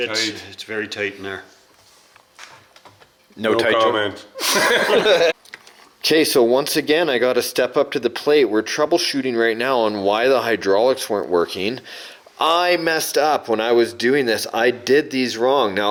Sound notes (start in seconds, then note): 4.4 laughing